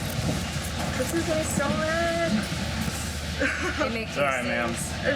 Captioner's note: sobbing